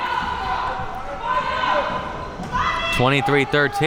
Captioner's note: spectators shouting